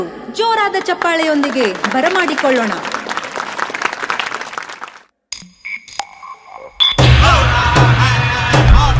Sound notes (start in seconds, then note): 2.8 applause